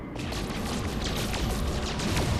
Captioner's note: pew pew